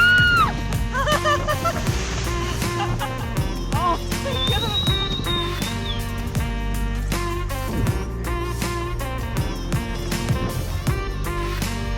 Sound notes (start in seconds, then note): 0.9 laughing; 4.1 whistling; 6.5 jazzy music